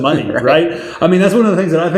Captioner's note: laughing